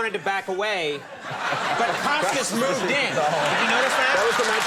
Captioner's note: audience laughing